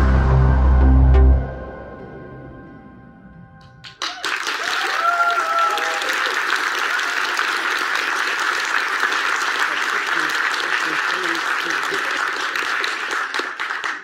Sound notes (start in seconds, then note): 9.7 audience applauds